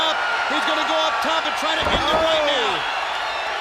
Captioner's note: crowd cheering